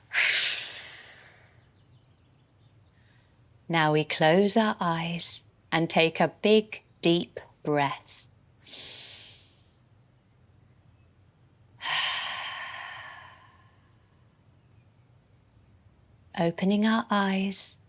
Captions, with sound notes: Now we close our eyes and take a big deep breath. [Inhale] [Exhale] Opening our eyes.